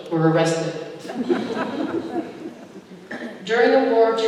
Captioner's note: laughter